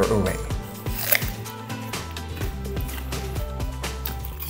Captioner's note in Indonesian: Suara gigitan